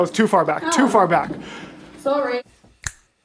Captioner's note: snaps